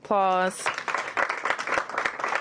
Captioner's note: applause